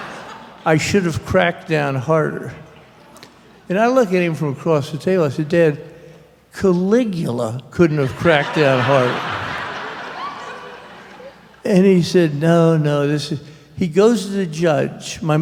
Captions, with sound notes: "I should have cracked down harder." And I looked at him across the table, I said, "Dad, Caligula couldn't have cracked down harder." [laughter] And he said, "No, no, this is--" He goes to the judge.